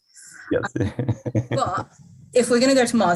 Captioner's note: laughing